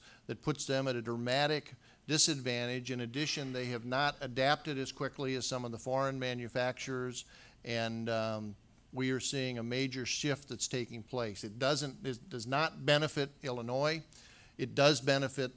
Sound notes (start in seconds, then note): none